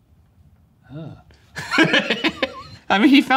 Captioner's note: murmuring approvingly; laughing